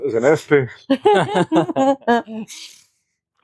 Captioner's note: laughter